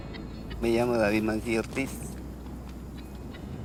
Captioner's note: speaking Spanish